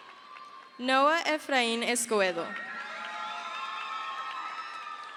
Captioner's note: crowd cheers